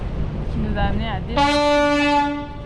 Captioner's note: boat Horn